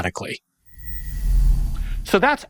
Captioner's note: air whooshes